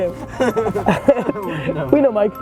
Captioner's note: laughing